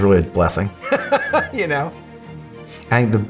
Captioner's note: laughs